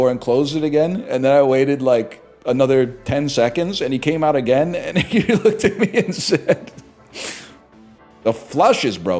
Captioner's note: laughing